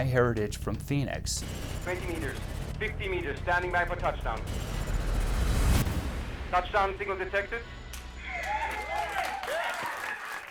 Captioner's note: cheers